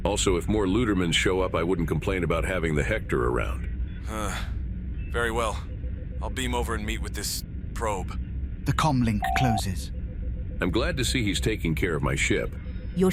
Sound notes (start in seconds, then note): 4.1 sighs